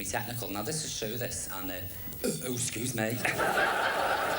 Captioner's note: burps